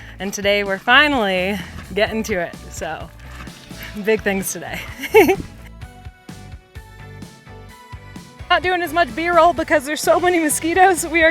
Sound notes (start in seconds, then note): 4.6 chuckles; 6.4 bright music continues